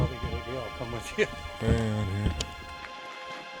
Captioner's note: chuckles